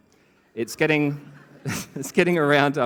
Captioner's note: laughter